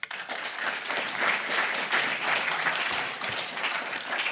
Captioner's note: applause